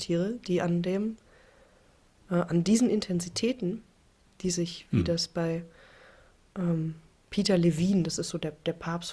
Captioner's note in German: räuspern